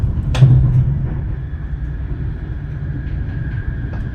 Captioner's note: sounds on board a train